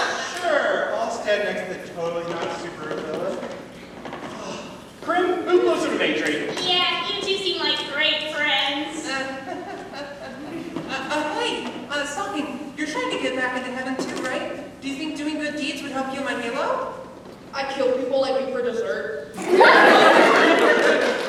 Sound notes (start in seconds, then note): 9.4 crimvael chuckles nervously